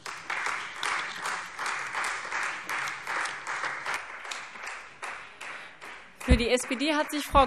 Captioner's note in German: Beifall Freie Demokraten